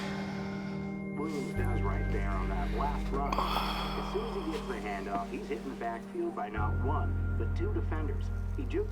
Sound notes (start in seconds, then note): 1.3 Drew sighing over muffled sportscaster dialog